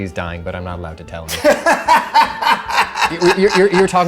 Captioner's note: abrasive laughter